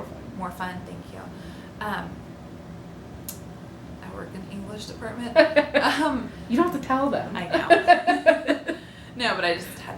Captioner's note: laughter